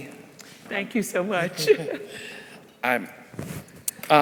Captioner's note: laughs